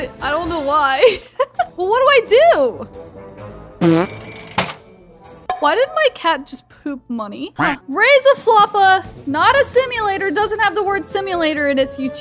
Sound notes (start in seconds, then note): 3.8 cat farts